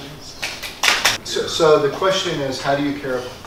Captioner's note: applause